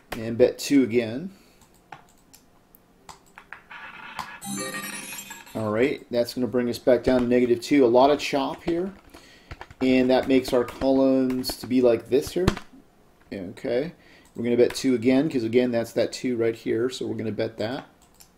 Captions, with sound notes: And bet two again. (ball rolling) (successful chime) All right, that's gonna bring us back down to negative two. A lot of chop here and that makes our columns to be like this here. Okay, we're gonna bet two again 'cause again that's that two right here so we're gonna bet that.